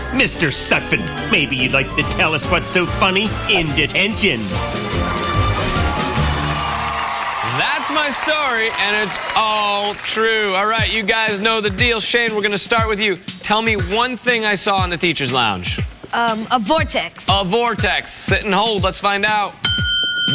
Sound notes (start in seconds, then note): 7.6 cheers and applause